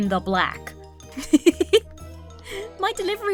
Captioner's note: laughs; breaks into laughter